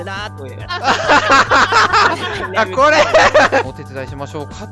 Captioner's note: laughter